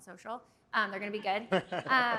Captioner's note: laughter